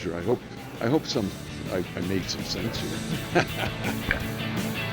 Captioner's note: laughing